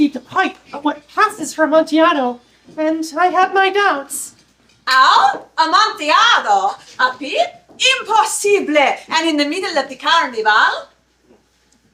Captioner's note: Italian accent